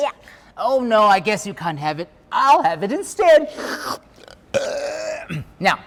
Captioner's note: slurps; burps